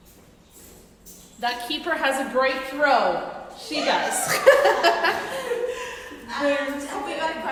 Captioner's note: laughing